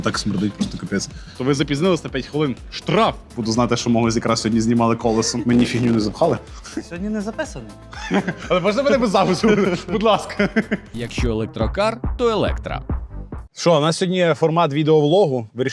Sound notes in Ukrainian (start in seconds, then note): 7.9 сміх